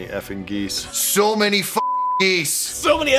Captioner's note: beeping